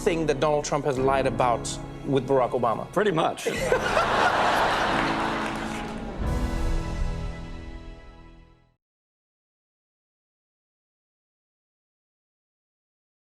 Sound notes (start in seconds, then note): 3.5 laughing; 6.2 soft music